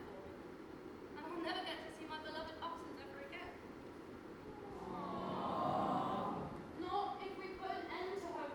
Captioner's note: audience awwwws